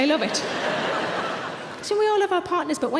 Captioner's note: audience laughs